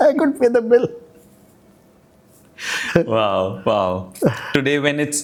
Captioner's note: laugh